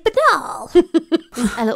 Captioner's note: laughing